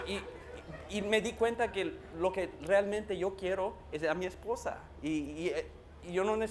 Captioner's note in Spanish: Risas